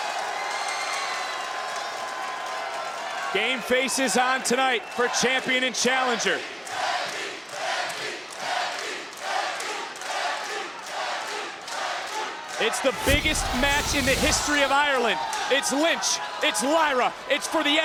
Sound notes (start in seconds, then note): 0.5 applause; 7.3 applause